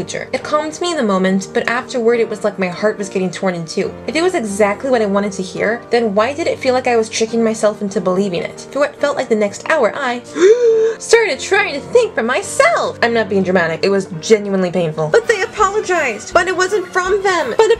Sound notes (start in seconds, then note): 10.3 gasp